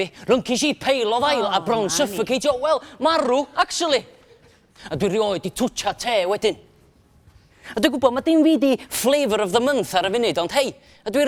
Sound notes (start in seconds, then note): none